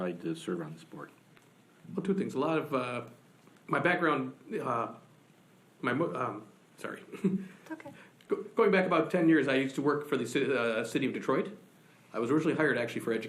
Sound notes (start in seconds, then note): 6.8 laughs